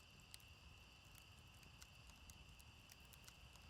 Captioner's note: fire crackling